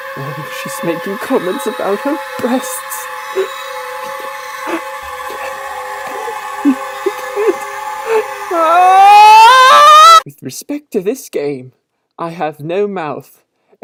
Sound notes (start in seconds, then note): 4.6 gasping and sobbing; 9.2 violent shrieking